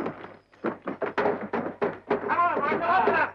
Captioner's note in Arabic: طرق على الباب